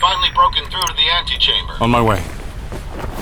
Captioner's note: footsteps crunching through snow